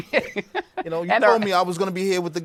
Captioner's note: laughs